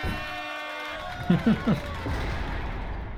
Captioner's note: chuckling